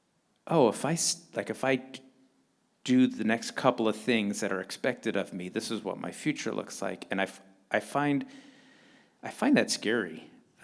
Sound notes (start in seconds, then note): none